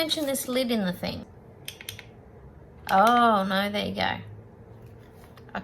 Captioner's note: two fast clicks